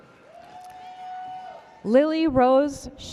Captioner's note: spectator whooping